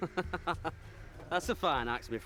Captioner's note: man laughs